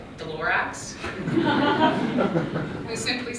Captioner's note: laughter